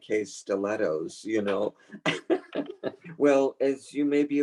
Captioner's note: laughs